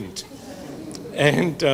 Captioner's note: audience laughing